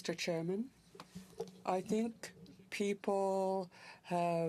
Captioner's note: speaking french